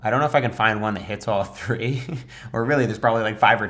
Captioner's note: chuckles